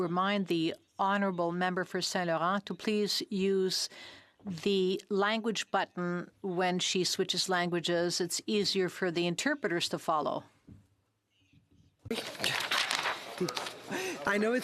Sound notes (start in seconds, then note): 1.9 speaking French